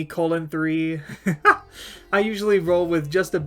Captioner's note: laughing